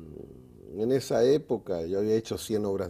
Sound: none

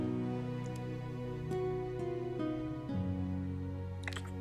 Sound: kissing

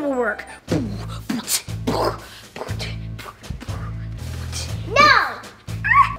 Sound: beatboxing; Stephen screams

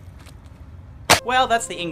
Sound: skateboard smash

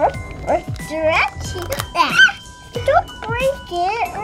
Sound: girl makes barking noises; squeals

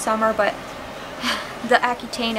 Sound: sigh

